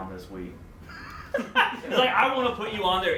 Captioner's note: laughs